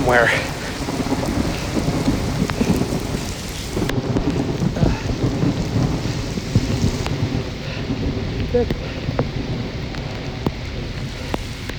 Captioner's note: rumbling thunder and rain sounds